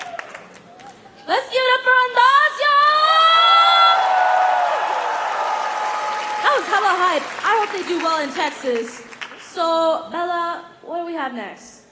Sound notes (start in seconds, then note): 2.6 cheering; 3.7 applause